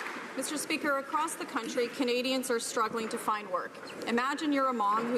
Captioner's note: some Applause